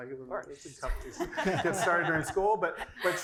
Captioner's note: laugh